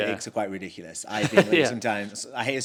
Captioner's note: laughs